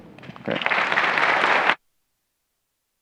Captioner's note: applause